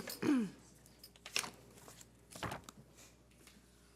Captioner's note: papers rustling